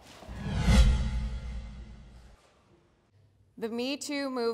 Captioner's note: wind swooshing